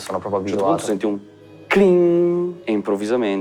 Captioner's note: cling